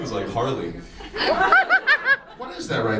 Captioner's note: audience laughs